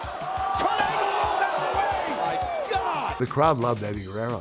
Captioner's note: crowd cheering